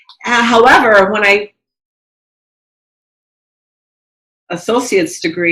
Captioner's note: faintly speaking